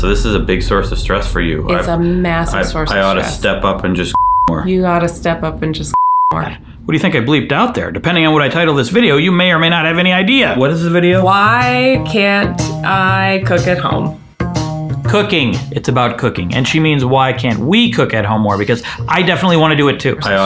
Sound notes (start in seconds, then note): 4.1 beep; 5.9 beep; 14.4 jaunty music